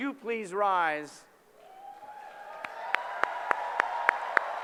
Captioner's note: applause